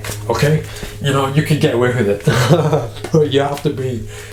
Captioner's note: laughing